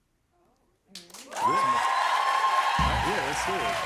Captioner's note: cheers and applause